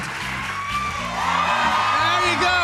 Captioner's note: audience cheers